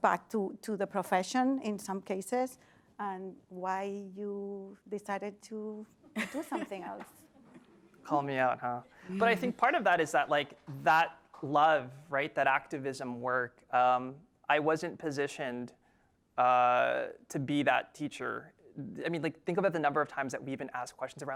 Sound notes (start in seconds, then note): 6.1 laugh